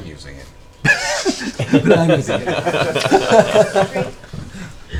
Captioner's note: all laugh